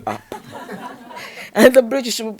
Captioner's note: audience laughing